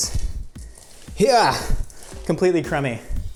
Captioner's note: exclaims loudly